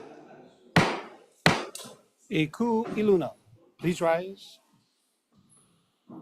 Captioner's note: gavel bangs twice